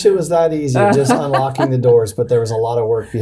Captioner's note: chuckling